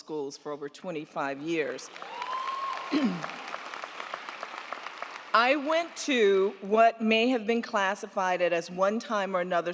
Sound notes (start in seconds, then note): 1.8 crowd clapping; 1.9 crowd cheering